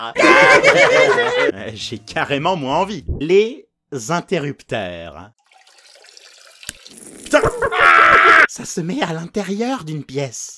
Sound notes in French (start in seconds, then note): 0.0 rires; 7.3 rires